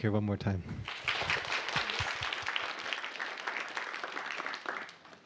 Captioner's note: applause